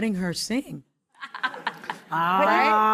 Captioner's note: laughing